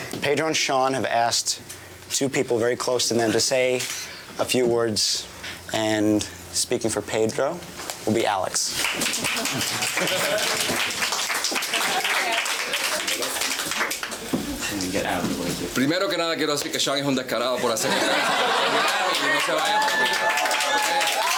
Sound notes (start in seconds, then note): 8.8 clapping; 15.9 speaks in a foreign language; 17.5 laughing and cheering